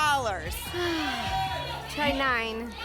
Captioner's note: sighs